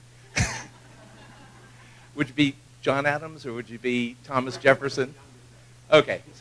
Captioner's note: laugh